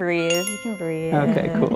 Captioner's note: bell dings